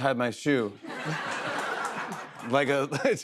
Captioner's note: laughter